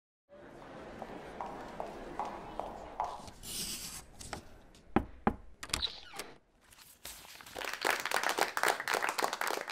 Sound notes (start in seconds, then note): 1.0 footsteps; 3.3 knocking on the door; 5.5 applause